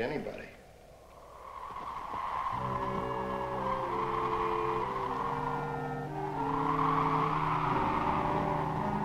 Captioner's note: wind howling; slow, tense music